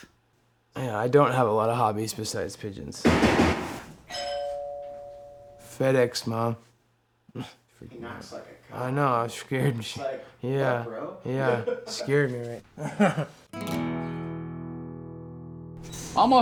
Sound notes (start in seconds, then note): 3.0 pounding on door; 4.1 doorbell rings; 10.9 laughs; 13.5 classical guitar strum